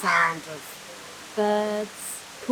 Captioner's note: bird squawking